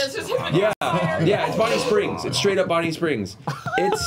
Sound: animatronic sounds

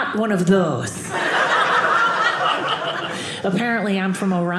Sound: audience laughing

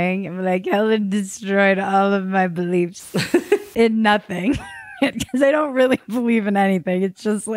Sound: laughs

